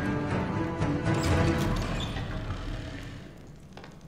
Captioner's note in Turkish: Kapı Açılma Sesi